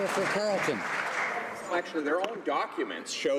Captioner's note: some Applause